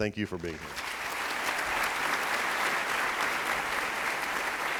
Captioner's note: applauding